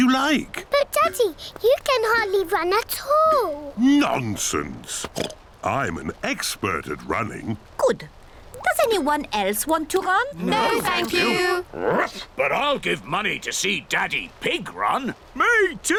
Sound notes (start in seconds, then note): 4.9 oinks; 11.8 barks